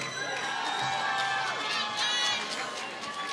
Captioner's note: applause